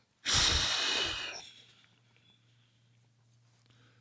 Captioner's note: exhales